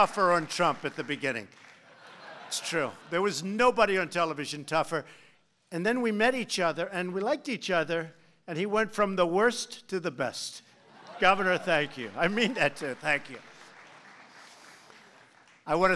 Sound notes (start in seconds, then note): 0.0 applause; 1.8 laughter; 12.2 laughs